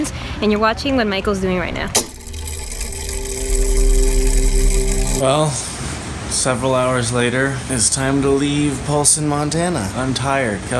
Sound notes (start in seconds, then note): 1.7 mechanism whirring